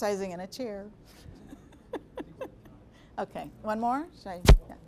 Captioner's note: laughing